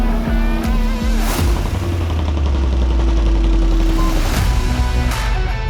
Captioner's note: upbeat music; vehicle whirring; jackhammer thumping; vehicle whirring; jackhammer thumping; upbeat music